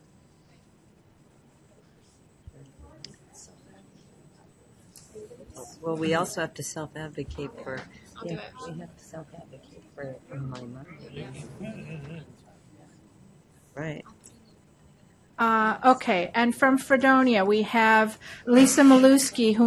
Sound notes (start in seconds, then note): 5.7 voiceover